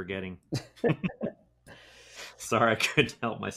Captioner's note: chuckling